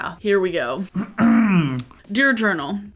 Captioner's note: clears throat